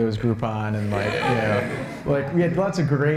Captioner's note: laughter